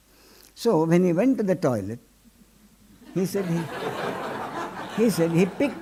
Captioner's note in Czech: smích